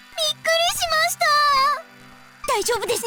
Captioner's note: none